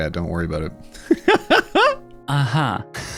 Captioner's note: laughing